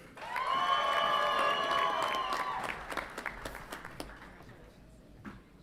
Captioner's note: audience applauds and cheers